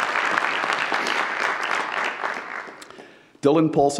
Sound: audience applauds

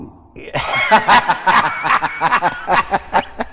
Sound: both laugh

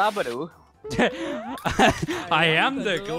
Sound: snickers

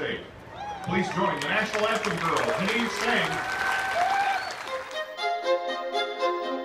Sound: applause and cheers; lively string music

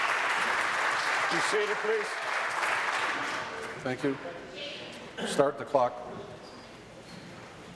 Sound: applause

